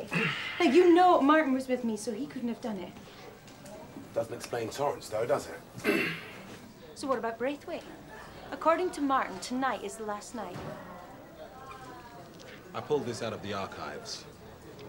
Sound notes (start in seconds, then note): 5.8 clears throat